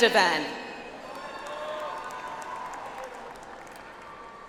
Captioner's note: audience applauds